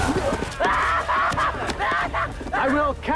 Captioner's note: Patrick Screaming